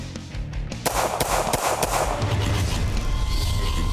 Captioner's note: gun firing